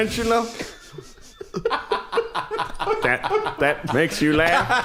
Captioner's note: uproarious laughter